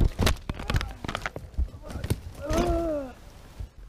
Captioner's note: groaning